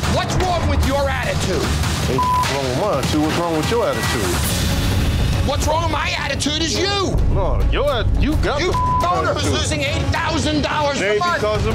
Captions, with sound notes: What's wrong with your attitude? - Ain't nothing (beep) wrong with mine, what's wrong with your attitude? - What's wrong with my attitude is you! - Oh you got the-- - Your owner is losing $8,000 a month! - It ain't because of me!